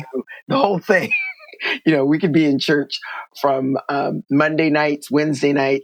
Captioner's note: laughter